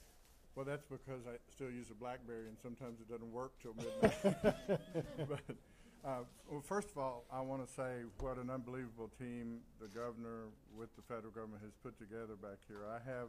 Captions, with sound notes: Well, that's because I still use a Blackberry and sometimes, it doesn't work until midnight. [Laughing] First of all I want to say what an unbelievable team the Governor with the federal government has put together back here. I have